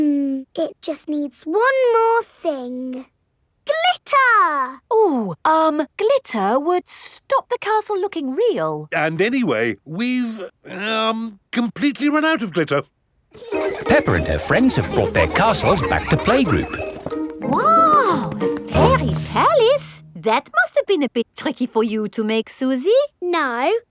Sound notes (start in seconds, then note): 13.3 children laughing